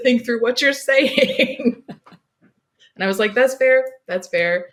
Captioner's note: laughs